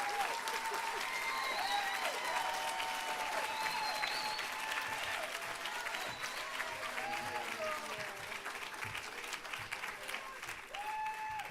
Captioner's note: applause